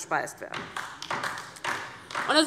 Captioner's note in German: Beifall DIE LINKE